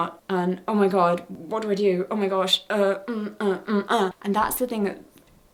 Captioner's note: panicked sounds